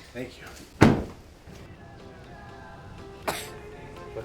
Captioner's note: sneezes